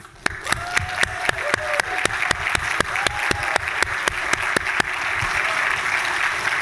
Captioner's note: applause